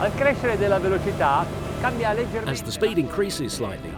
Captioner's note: speaking foreign language